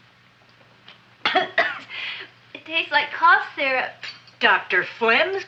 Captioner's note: coughs